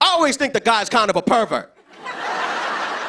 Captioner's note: laughter